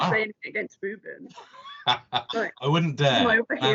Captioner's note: laughter